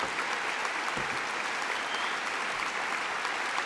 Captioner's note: applause